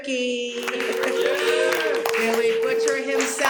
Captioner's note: cheers and applause